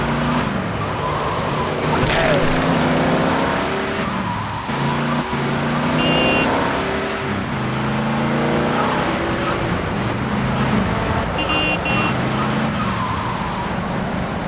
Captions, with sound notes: (engine revving) (tires screeching) Idiot.